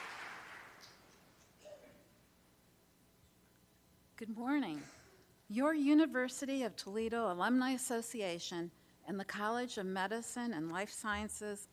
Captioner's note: applause